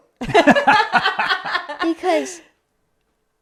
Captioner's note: laughing